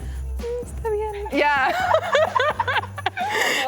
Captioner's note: laughs